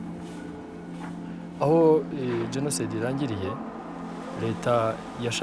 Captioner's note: Man Continues In Kinyarwanda